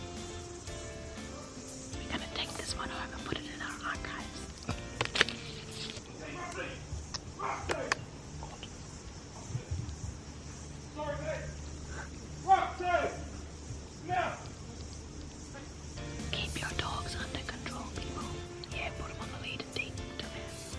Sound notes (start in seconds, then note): 5.3 yelling at his dog